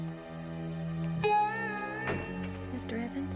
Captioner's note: door closes